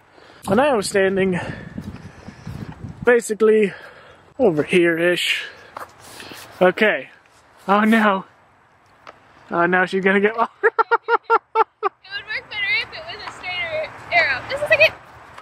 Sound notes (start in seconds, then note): 10.4 laughs